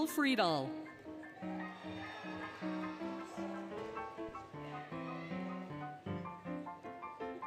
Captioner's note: applause, Cheering, Music